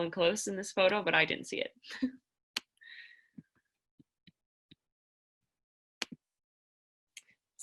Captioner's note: laughter